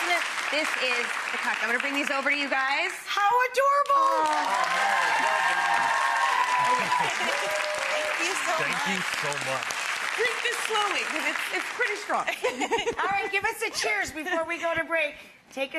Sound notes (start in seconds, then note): 4.1 audience cheering; 12.3 laughing